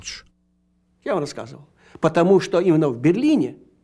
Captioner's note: speaking russian